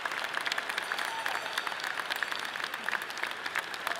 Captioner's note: bell tinkles softly; audience clapping and cheering loudly